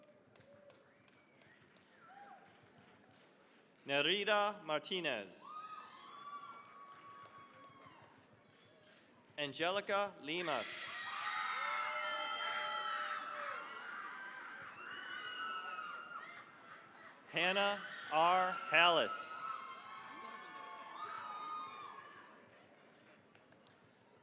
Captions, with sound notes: (applause) Nereida Martinez. (cheering, applause) Angelica Limas. (cheering, applause) Hannah R. Halas. (cheering, applause)